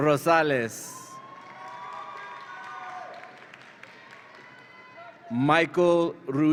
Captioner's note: audience applauds and cheers